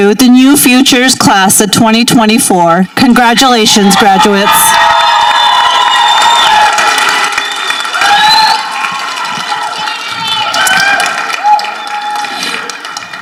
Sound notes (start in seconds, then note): 4.0 people applauding and cheering